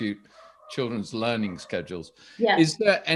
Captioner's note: dog barking